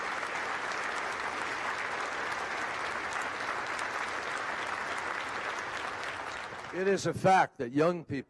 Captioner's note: applause